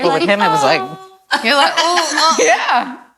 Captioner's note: all laugh